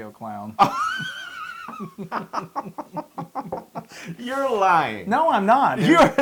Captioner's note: laugh